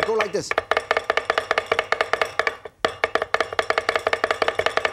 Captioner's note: knives chopping